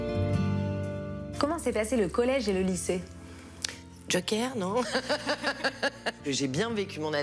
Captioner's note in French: rires